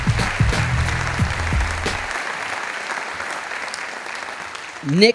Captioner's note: audience applauding